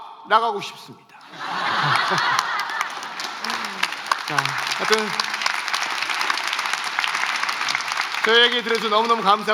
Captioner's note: laughter and applause